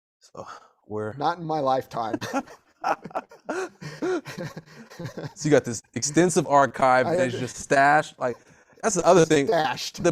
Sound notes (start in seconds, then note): 2.0 laughter